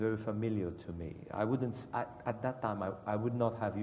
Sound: none

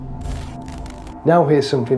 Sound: static crackling

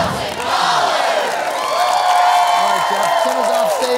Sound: cheering

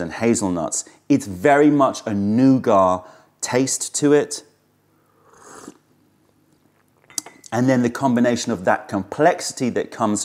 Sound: sips tea

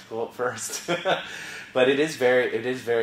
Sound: laugh

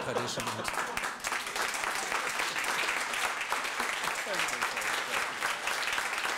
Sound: applause

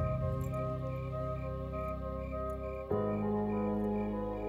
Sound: keys clinking

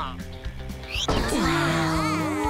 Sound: all gasping

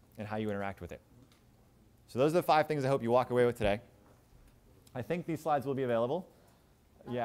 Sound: none

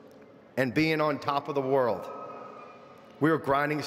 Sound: none

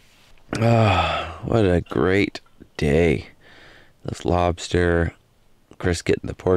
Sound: sighs

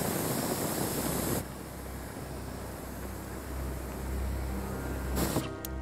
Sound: rushing flame; ominous music

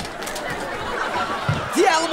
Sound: laughing

